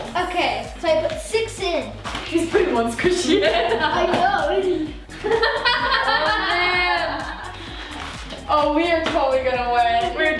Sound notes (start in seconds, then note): 3.1 laughing